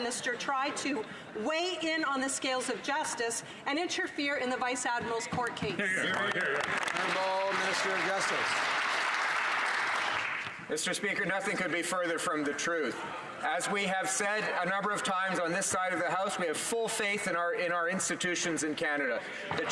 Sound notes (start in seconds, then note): 9.0 some Applause